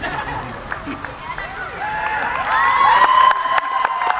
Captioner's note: cheering